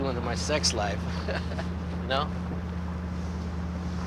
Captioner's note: chuckles